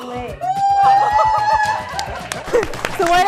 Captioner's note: cheering